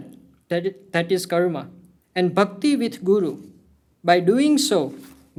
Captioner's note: hindi; hindi